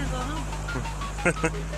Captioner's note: laughs; ríe